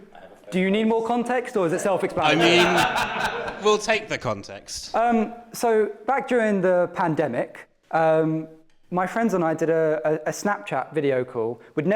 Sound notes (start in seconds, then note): 0.0 confused laughter; 2.1 laughter